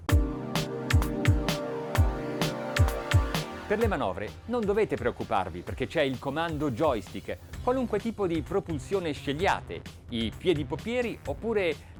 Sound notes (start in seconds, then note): 0.0 electronic music; 3.9 man speaks in foreign language